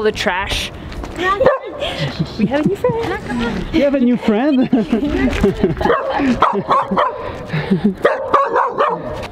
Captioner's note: bark bark bark